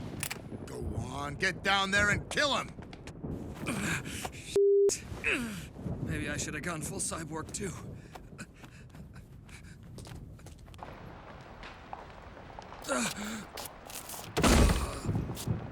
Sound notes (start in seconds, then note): 3.4 grunting; 8.4 breathing heavily; 12.9 groaning